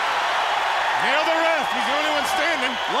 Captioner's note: crowd cheering